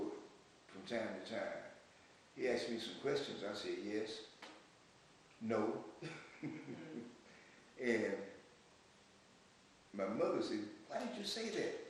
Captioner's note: laughs